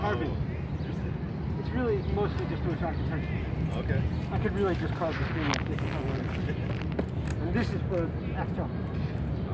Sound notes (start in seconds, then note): 6.8 laughs